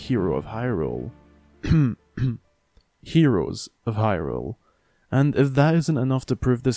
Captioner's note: black screen, cough cough